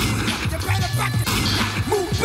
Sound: gunshot resonating

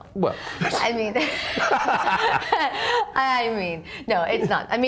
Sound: laughs

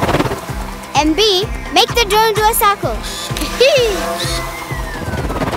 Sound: laughing

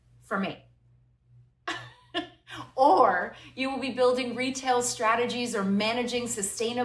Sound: laughter

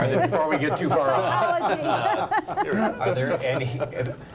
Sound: laughing

